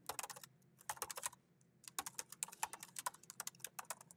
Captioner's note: keyboard clacking